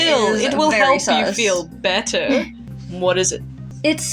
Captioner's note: chuckle; chuckle